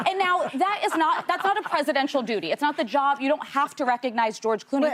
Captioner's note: laughter